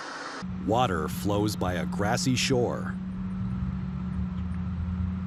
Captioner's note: generic city background noise